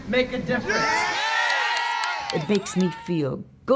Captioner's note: crowd screaming